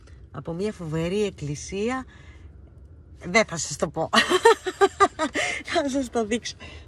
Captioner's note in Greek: γέλια